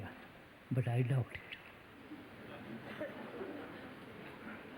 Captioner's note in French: Rires